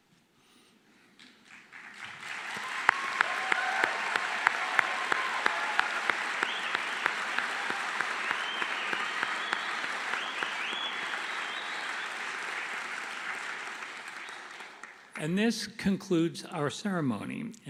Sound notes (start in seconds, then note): 3.4 applause